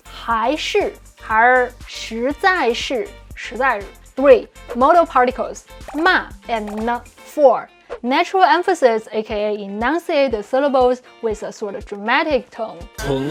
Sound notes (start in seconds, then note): 0.1 speaking in Mandarin; 5.9 speaking in Mandarin; 13.0 speaking in Mandarin